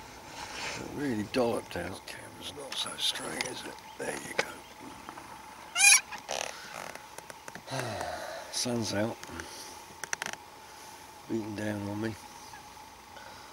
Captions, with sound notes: it really dolloped out camera is not so straight is it there you go (sigh) sun's out beating down on me